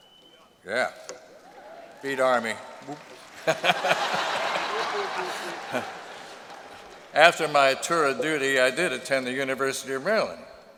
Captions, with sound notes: yeah, beat Army. [laughter]. After my tour of duty, I did attend the University of Maryland.